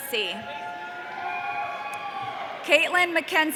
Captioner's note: audience cheering